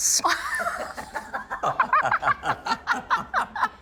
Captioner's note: laughing